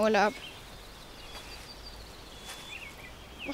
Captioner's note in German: Idyllisches Vogelgezwitscher